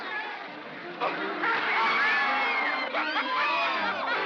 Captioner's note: water splashes; women scream; Cole laughs